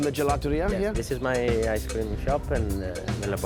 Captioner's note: with Italian accent